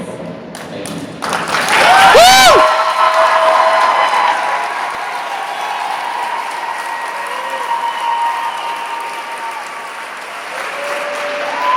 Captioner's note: cheers